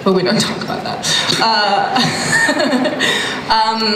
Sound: laughs

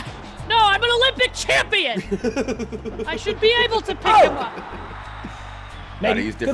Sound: laugh

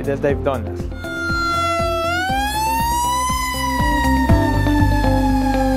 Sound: sirens

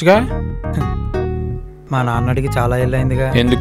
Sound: scoffs

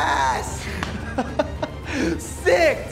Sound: laughing

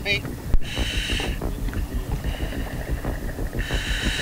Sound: diver inhaling

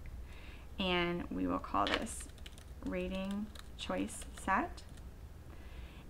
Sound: typing

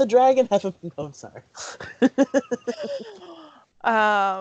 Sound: laughter

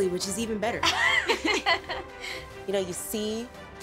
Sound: laughter

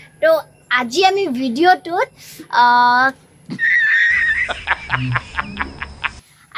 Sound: hahahahahahaha

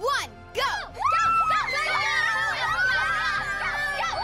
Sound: cheering

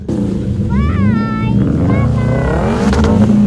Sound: my daughter shouting lol

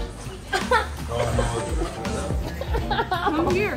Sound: groans

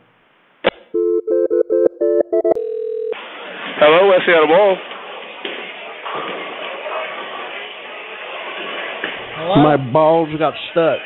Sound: phone ringing

